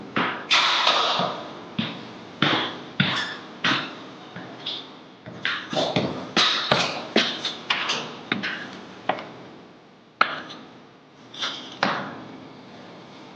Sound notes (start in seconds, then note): 1.9 footsteps echoing